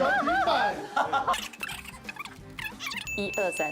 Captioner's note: shuffling the cards